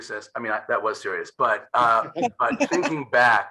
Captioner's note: all laughing